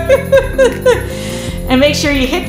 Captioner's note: laughter